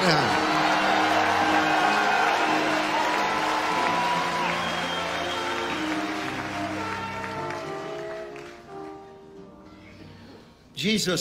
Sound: crowd cheers and applauds

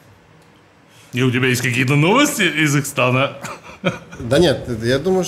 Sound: excitedly

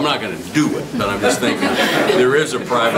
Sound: group laughs

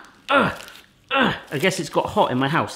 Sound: grunts

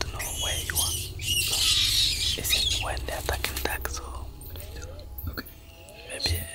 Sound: animal screeching

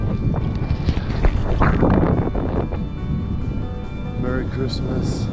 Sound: wind whipping

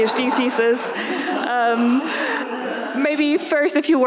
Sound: audience laughing

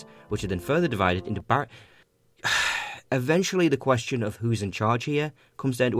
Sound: sigh

